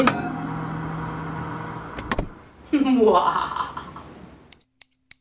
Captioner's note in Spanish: risas